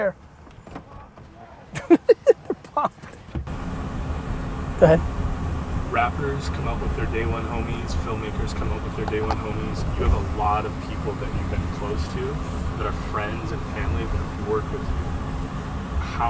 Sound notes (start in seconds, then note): 1.7 laughs